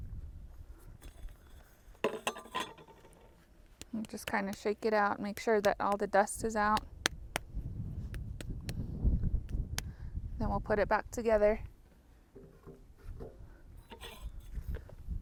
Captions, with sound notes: (metal clinks) Just kind of shake it out and make sure that all the dust is out. (hand smacks) Then we'll put it back together.